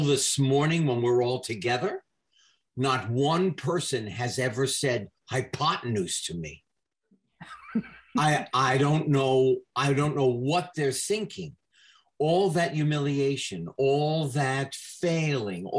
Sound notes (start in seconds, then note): 7.4 laughs